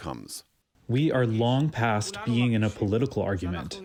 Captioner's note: through translator